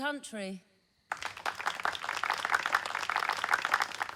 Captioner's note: clapping